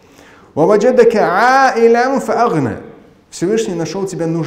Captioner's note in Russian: Говорит на арабском